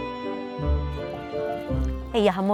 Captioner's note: in Maltese